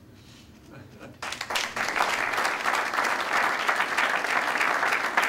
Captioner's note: applause